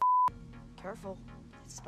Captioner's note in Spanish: pitido; música ligera